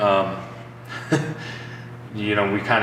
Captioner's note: chuckles